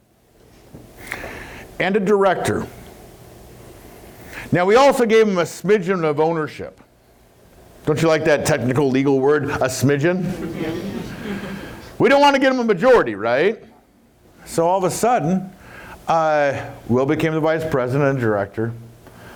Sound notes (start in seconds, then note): 10.2 laughs